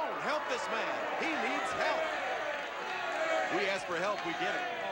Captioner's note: audience cheering